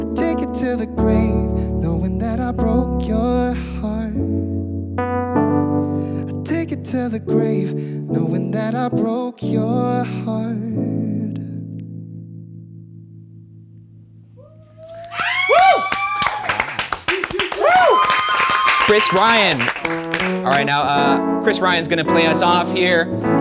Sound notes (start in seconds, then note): 14.8 cast and crew cheering and clapping